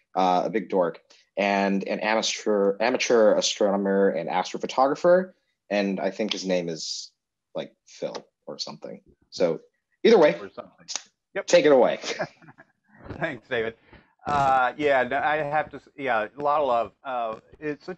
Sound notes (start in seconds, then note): 13.1 both laughing